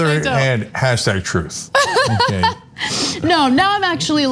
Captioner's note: laugh